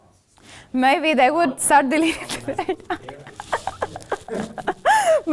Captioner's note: laughs